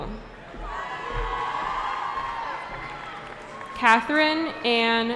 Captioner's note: cheering